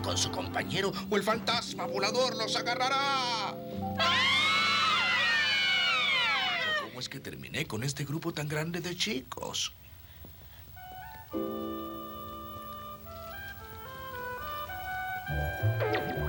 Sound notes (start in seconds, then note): 3.9 all scream